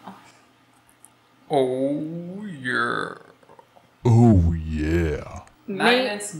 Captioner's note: deep Voice